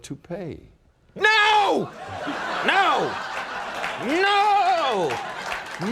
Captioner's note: audience laughing